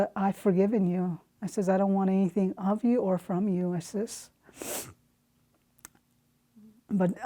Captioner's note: sniffs